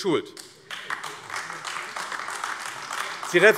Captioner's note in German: Beifall AfD